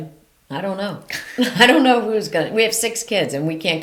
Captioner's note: chuckles